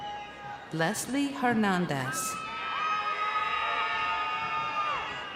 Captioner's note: crowd cheering